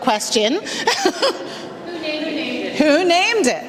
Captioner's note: laughs